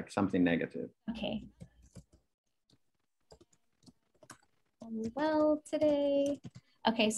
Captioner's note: typing